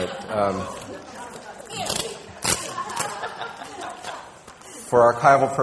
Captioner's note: people laughing